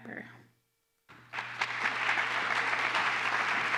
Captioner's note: applause